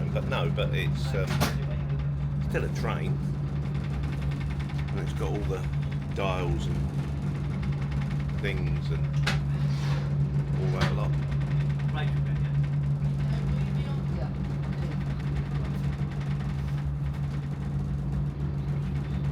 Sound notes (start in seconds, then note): 12.0 engine rumbling